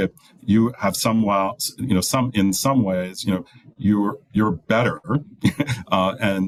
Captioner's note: chuckles